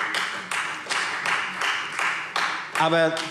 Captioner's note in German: Beifall Freie Demokraten